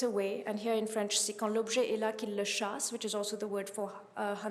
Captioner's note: speaking french